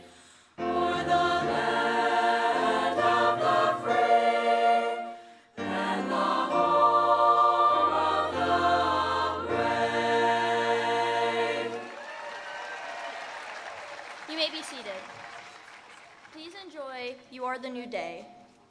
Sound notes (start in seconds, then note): 11.6 attendees applauding